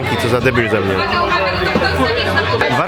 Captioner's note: nom nom